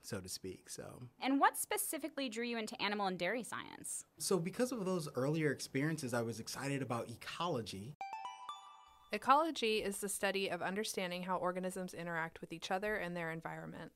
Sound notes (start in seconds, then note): 8.0 chime